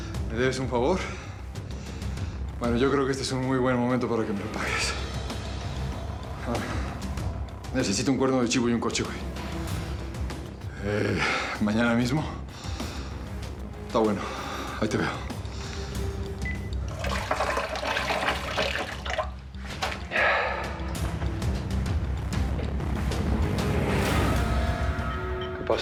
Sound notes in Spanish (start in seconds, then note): 19.3 ruido del agua; 22.0 exhala